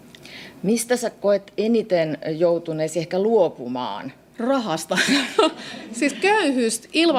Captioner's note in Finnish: naurua